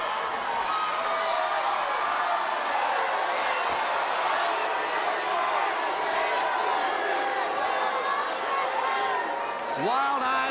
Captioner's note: crowd cheering